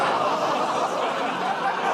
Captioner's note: laughter, groaning